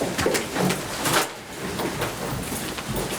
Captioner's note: rustling